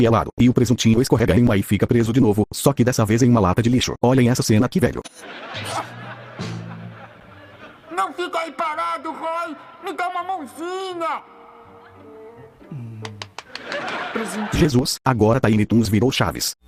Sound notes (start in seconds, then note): 13.0 claps